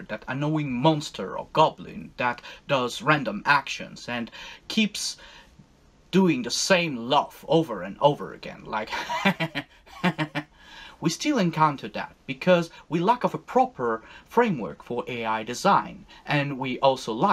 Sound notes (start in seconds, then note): 8.9 repetitive, monotone laugh